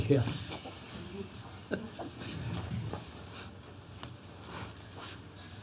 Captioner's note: laughs